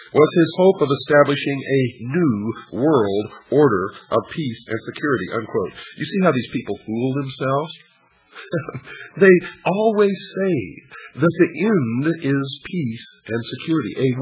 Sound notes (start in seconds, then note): 8.4 laughs